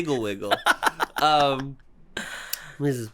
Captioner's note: giggle